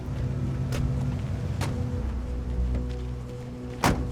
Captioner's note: doors close